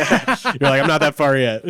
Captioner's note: all laugh